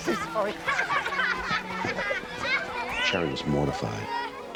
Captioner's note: children laughing